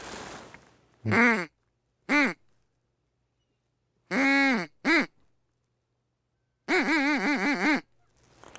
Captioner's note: sounds of a duck call